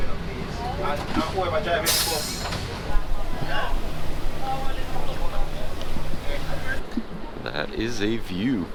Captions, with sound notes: (bus hisses) That is a view.